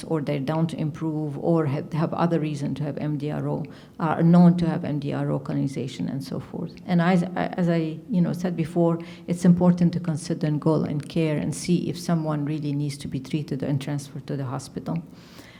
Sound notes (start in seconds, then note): none